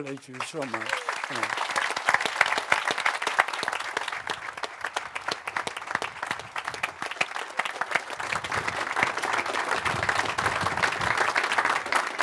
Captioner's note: applause